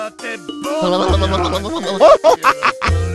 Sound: shivering

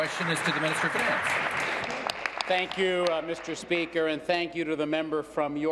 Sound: applause

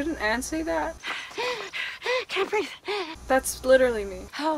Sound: gasping for air

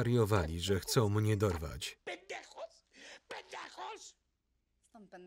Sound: speaking foreign language

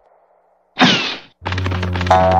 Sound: footsteps; poof!

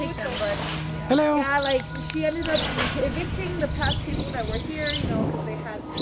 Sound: snaps

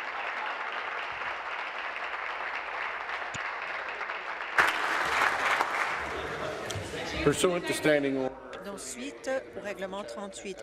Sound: applause

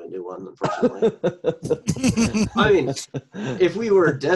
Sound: laughing

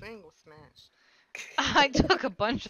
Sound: chuckle

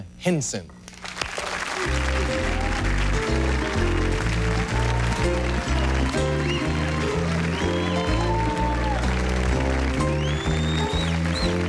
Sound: Applause, jazzy Sesame Street theme instrumental

